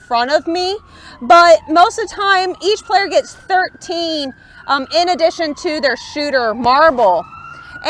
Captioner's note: siren off to left